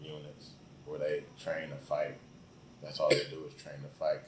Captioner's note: coughs